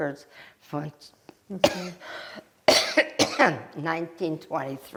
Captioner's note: coughing